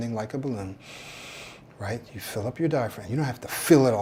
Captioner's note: breathes